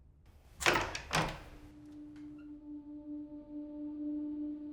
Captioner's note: door clicks